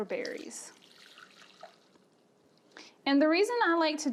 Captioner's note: liquid ripples